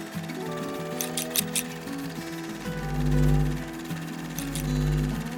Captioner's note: movie reel sound; scissor cutting sound